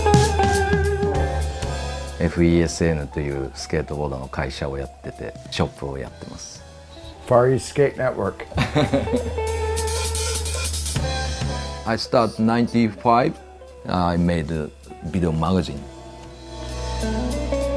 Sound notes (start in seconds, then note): 2.3 speaking in foreign language; 8.4 laughing